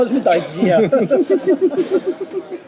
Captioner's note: SOON and OR KIA laughs